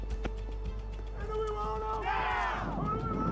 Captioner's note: cheering